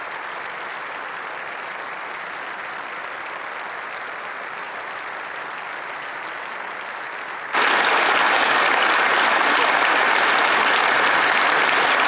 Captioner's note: applause